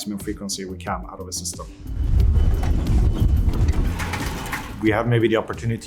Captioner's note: equipment clattering